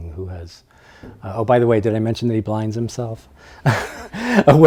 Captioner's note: laughs